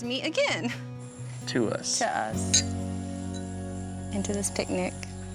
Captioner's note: glasses clinking